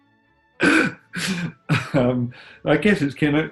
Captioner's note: laughing